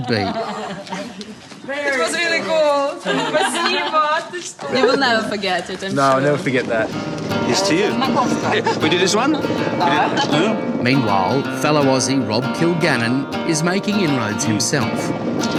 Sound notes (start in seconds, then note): 0.0 laughter; 3.0 laughter; 3.1 speaks ukrainian; 8.1 speaks ukrainian